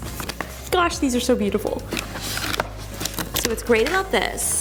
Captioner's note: package rustling